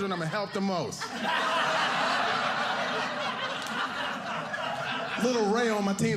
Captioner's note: audience laughing